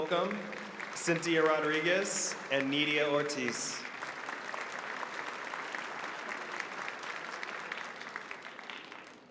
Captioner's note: applause